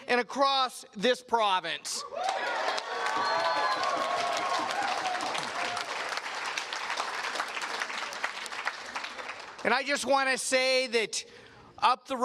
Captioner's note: cheers and Applause